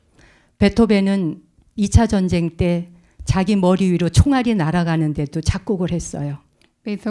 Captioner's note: speaking in Korean